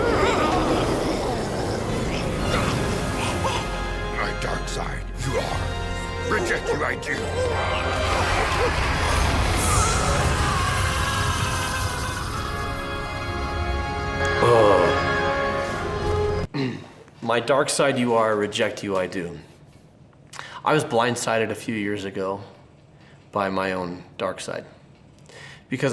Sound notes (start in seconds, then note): 0.0 Dark Yoda whimpering; 0.2 dramatic orchestral music; 7.0 Dark Yoda whimpering; 8.0 dramatic orchestral music; 10.5 Dark Yoda screams